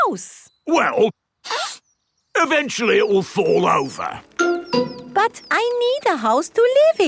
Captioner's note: sniffs